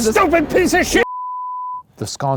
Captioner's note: beep